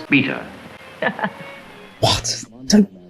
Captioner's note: laughs